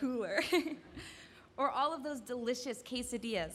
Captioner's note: laughs